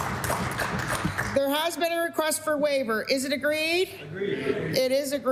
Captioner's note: applause